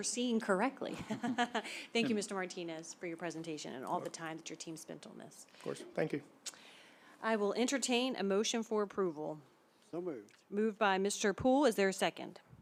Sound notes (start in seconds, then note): 0.9 chuckles